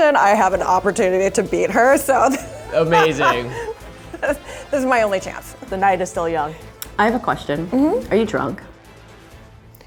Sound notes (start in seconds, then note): 2.2 laughs